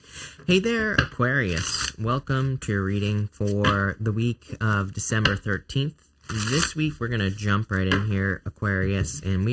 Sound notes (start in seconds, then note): 1.4 cards shuffling